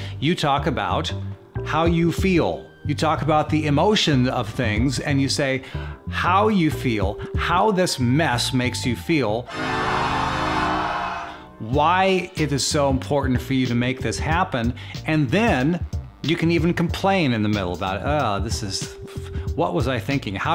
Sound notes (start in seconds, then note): 9.4 dramatic music; 9.5 people shouting; 12.7 upbeat music